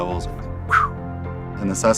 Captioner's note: whistles